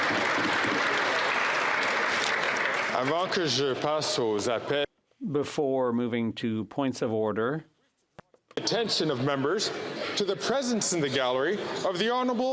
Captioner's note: some Applause